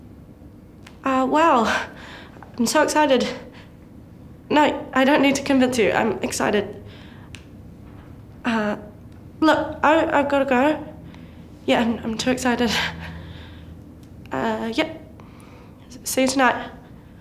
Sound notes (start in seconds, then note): none